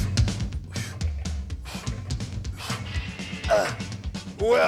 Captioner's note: spring boings; whistle blows; Jim panting